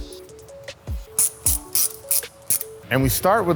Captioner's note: wrench cranking